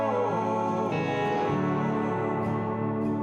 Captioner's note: none